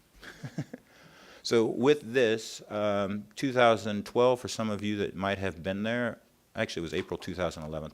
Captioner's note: chuckles